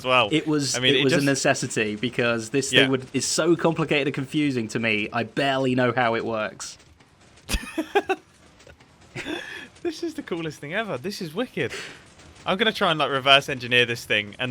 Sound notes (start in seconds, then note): 7.5 laughs